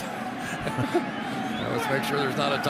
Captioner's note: laughter